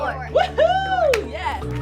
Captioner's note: claps